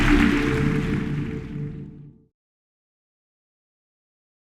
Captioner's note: audience applause; whoosh